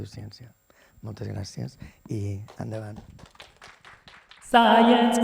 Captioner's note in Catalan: aplaudiments